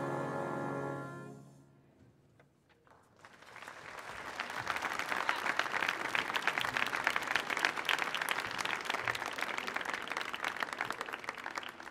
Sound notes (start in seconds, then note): 3.1 audience applauding